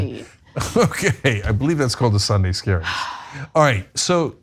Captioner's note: laugh